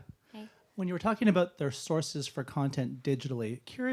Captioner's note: voiceover